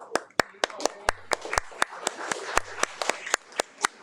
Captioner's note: audience applauding